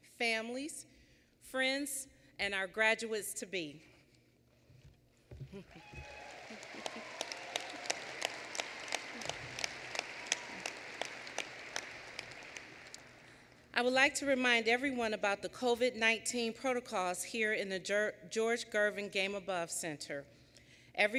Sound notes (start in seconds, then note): 5.7 applause